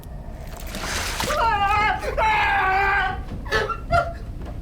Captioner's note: spider hissing; Daniel screaming